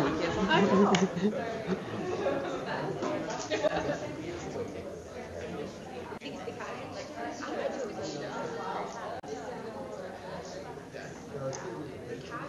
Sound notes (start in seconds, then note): 2.0 audience chatter